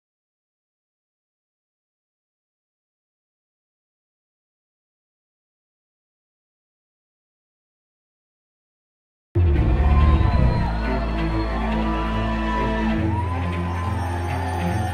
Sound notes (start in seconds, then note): 9.4 crowd cheering; 9.4 dramatic music